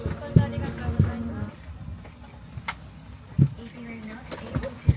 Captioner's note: passenger speaking in foreign language